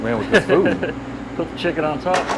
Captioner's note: chuckling